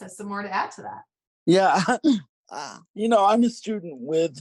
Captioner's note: laughs